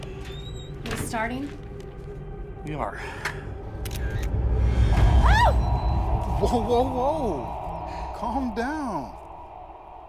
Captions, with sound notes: - We're starting? - We are. (camera clicking) (ominous music) (Rachel screams) - Whoa, whoa, whoa. Calm down.